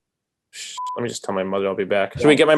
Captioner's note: beep